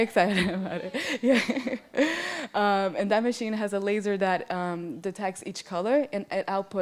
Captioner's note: laughs